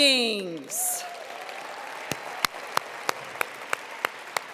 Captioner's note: applause